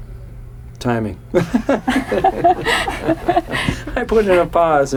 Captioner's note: laughs